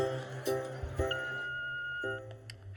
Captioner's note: voicemail beeps